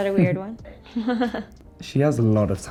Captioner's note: laughs